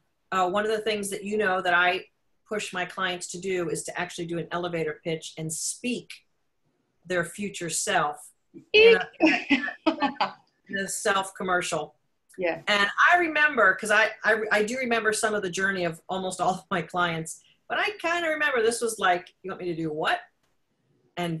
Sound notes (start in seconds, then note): 8.6 laughs